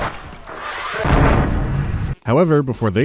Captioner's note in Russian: бум